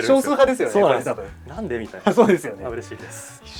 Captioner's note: laughs